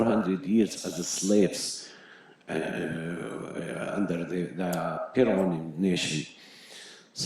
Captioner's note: Hebrew